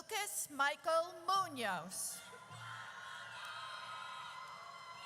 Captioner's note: audience cheers